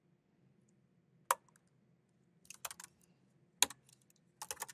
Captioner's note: keyboard clacking